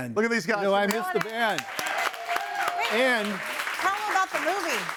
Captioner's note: audience cheers